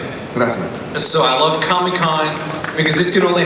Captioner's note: voiceover